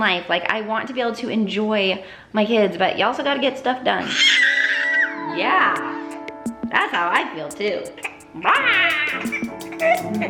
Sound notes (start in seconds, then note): 4.0 baby squeals